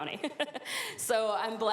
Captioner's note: chuckles